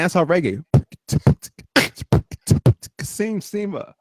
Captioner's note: beat-boxing